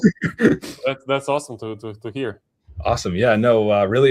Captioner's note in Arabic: ضحك